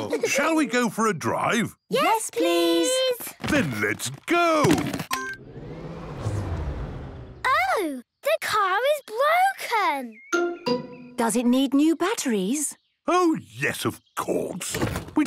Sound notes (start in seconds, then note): 5.1 car chimes; 5.3 whirring, whirring stops